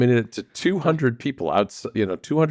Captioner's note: laughs